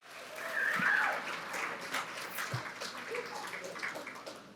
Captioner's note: audience applauding